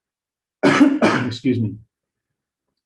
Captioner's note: coughing